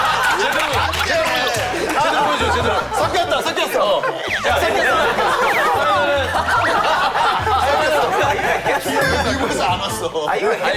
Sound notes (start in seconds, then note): 6.3 hahaha